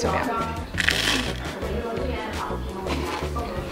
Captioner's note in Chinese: 鬆脆的聲音